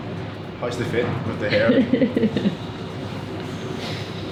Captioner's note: laughing